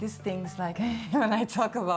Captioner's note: chuckles